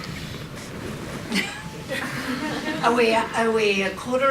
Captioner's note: audience and panel laugh lightly